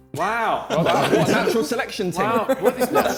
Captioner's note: men laughing; Vik laughing